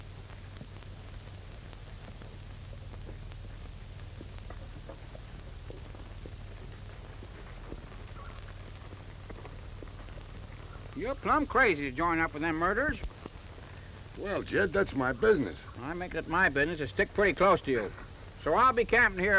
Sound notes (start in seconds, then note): none